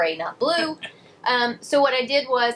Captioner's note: laughs